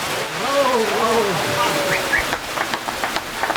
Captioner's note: whistles, applause